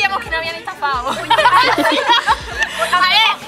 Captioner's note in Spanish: risas